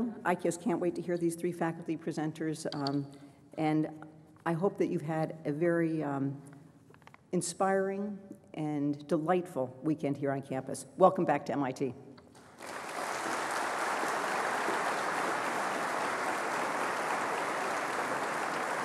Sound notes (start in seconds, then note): 12.4 applause